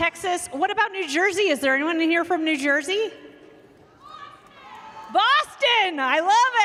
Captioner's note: cheers and applause